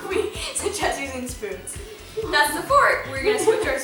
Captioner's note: laughter